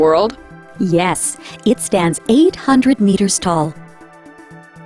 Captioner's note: voiceover